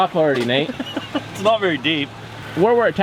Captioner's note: laughing